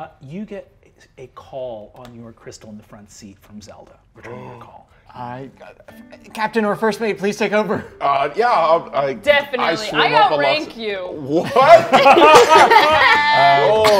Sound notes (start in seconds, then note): 4.7 gasps; 11.6 cast laughing